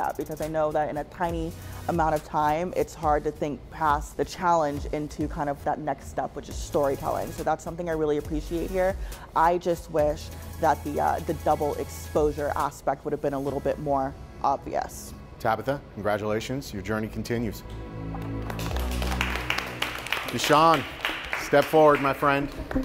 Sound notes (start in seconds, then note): 18.1 competitors clapping